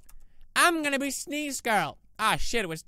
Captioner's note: imitates girl